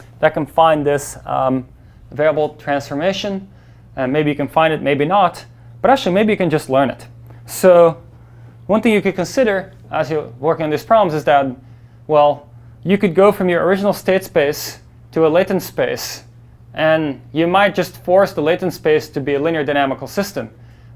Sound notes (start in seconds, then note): none